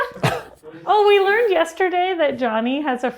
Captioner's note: laughs